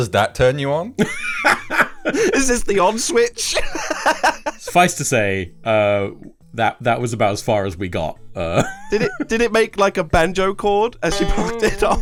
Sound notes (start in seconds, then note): 3.5 laughs; 8.5 laughs; 11.0 banjo string being broken